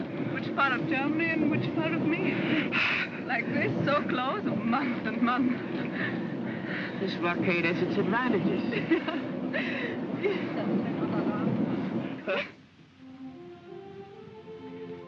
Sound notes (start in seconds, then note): 10.8 trolley rumbles; 12.4 soft music